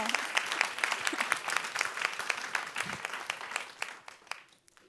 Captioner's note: audience claps